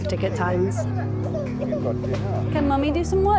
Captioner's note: baby crying